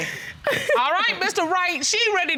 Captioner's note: laughs